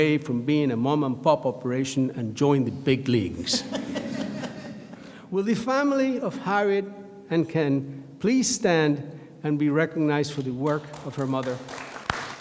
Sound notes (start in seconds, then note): 3.5 audience laughs; 12.2 audience applauds